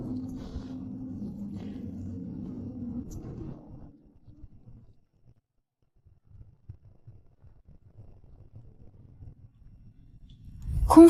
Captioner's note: humming sounds